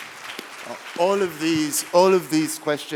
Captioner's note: applause